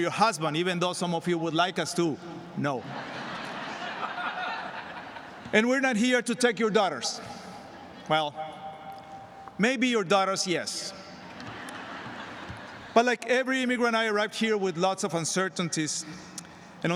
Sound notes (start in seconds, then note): 5.8 laughter